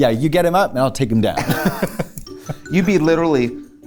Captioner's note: laughs